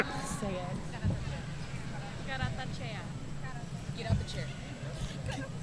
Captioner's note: speaking faintly off mic